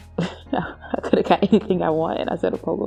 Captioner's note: laugh